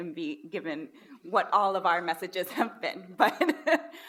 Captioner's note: laughs